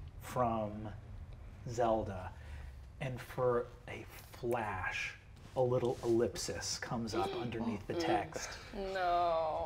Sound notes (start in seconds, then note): 7.2 players gasp